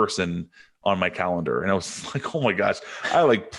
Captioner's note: chuckles